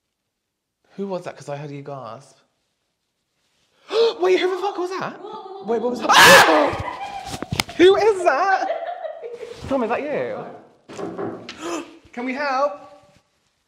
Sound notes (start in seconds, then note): 6.0 shocked Scream; 10.9 more Knocking